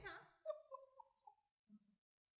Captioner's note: laughter